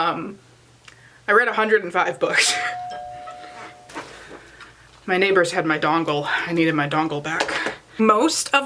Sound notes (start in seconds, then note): 2.6 doorbell